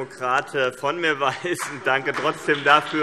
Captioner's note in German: Heiterkeit - Vereinzelter Beifall BÜNDNIS 90/DIE GRÜNEN